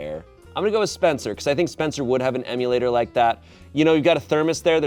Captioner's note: none